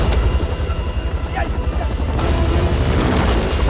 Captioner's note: Kang Speaking Korean